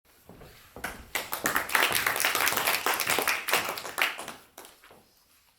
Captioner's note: attendees applauding